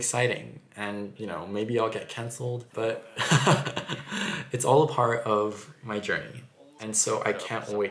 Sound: nervous laughter

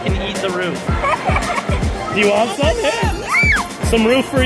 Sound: laughter

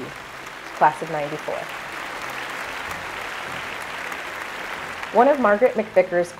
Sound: applause

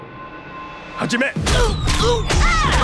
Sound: speaking foreign language; groaning

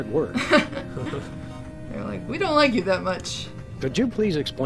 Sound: laughs

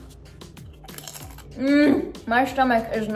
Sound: chips crunching

